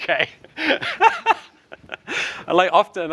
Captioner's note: laughs